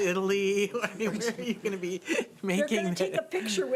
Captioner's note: laughing